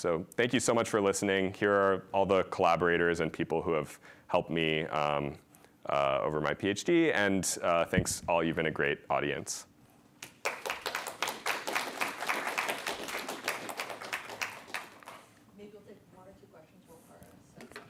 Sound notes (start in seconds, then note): 10.2 applause